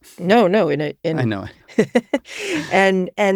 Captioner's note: laughs